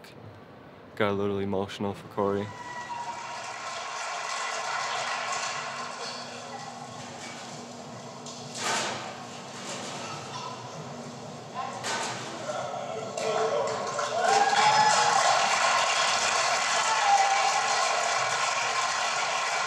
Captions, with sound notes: My brother and Cory Cleveland got to talk. It got a little emotional for Cory. (applause)